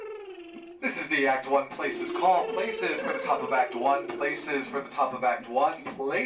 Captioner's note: PA system